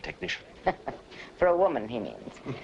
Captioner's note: chuckles